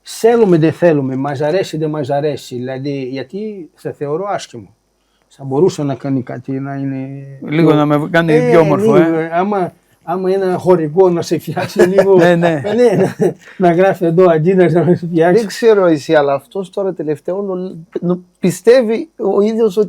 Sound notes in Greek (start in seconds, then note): 11.5 γέλια